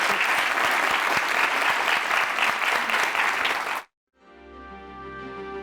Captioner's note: audience applauding